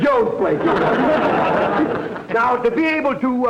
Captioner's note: audience laughter